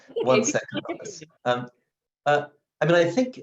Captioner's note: distorted sound